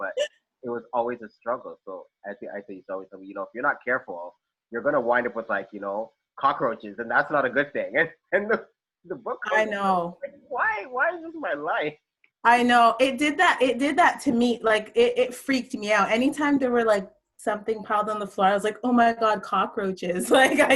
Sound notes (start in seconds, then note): none